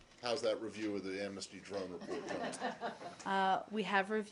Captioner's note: laughter